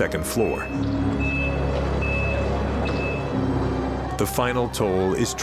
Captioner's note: beeping sound